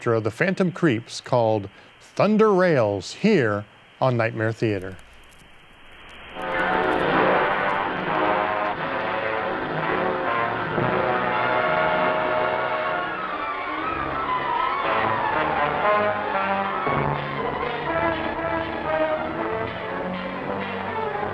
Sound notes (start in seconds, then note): 5.3 melodramatic music; 5.3 static hissing